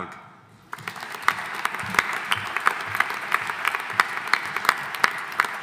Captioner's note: audience applauding